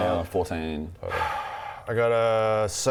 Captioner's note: sigh